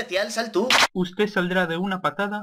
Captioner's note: gun cocking